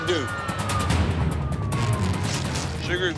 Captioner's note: sirens